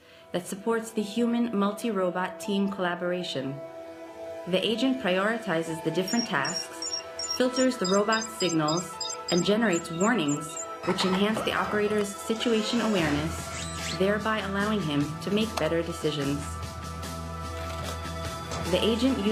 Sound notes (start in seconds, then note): 0.1 calm music; 5.9 beeping; 12.2 electronic beeping and screeching; 13.1 upbeat music